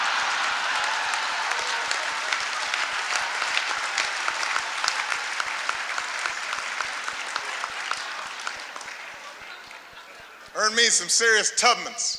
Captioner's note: laughter, applause